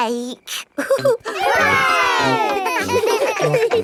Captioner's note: laughing; chuckles